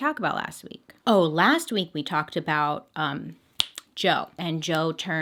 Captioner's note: snaps finger